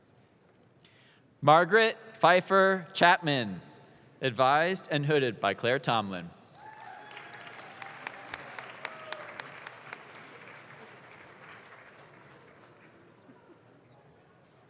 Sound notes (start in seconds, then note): 6.6 audience claps